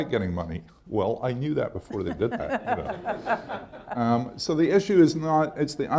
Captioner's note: laughter